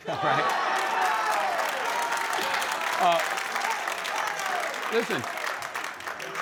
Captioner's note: laughter and applause